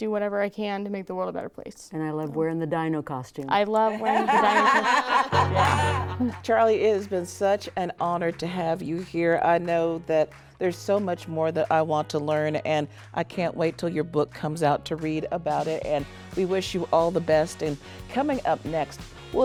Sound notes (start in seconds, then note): 3.9 laughing